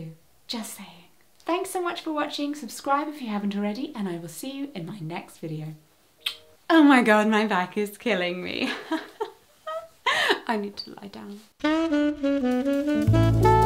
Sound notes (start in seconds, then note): 9.6 laughs nervously